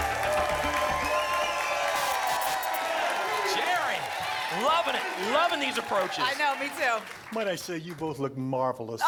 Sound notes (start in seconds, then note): 0.2 applause and cheering cont; 1.9 static